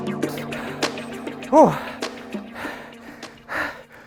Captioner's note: gasping for air